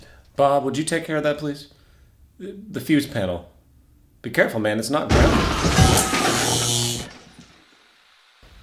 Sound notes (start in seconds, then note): 5.1 explosion; 6.6 Bob screaming